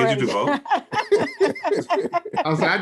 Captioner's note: all laugh